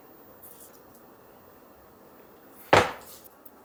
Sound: pat pat

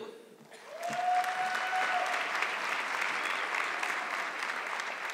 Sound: audience clapping

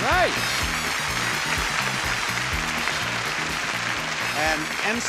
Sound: audience applauds

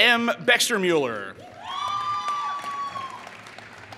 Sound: applause

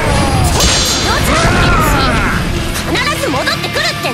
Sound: death Scream

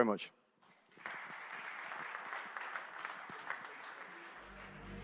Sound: audience clapping

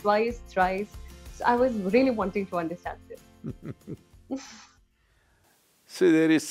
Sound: Sadhguru laughs

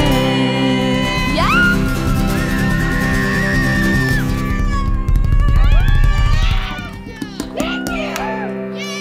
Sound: cheers and applause

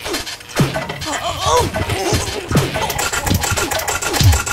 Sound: worried moans

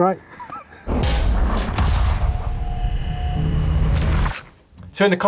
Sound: percussive rumbling

